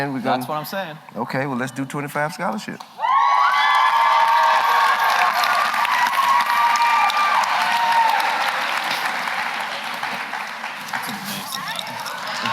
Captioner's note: applause